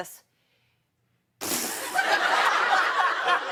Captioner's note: laughter